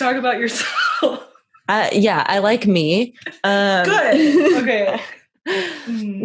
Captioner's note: laughs; sarcastic